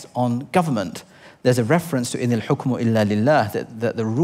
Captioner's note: foreign language